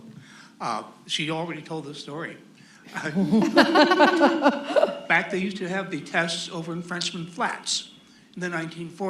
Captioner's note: laughter